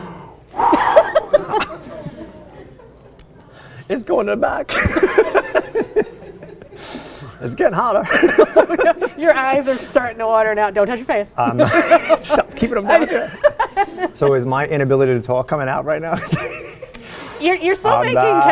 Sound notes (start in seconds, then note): 4.7 laughs; 17.0 laughs; 18.3 babbles